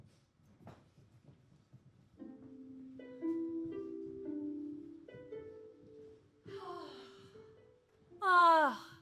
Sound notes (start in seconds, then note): 2.2 soft harp music; 6.3 sighing